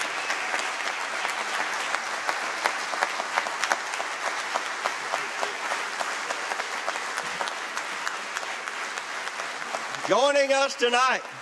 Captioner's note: applause